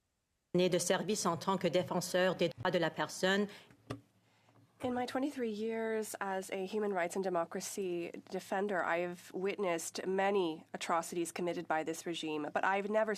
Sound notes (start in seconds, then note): 9.0 speaking French